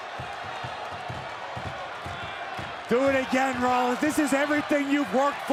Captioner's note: applause